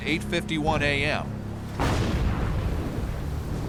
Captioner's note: explosions